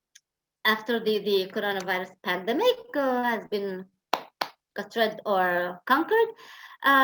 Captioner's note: claps twice